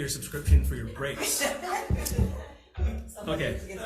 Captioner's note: people laugh